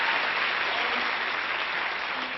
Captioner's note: applause